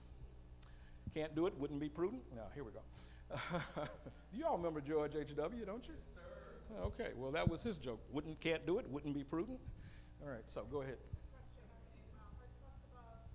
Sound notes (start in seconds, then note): 3.3 laughing